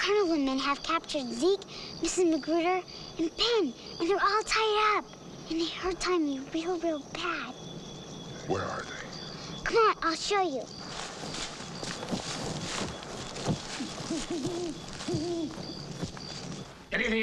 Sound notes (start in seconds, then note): 11.4 leaves rustling; 14.2 owl hooting